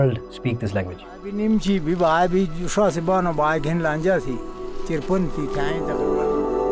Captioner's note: speaking Torwali